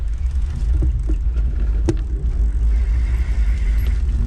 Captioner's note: eBike motor revving